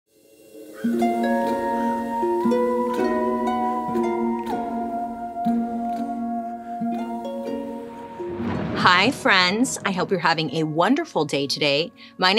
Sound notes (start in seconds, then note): 0.6 eerie inquisitive music; 7.8 thunder crashing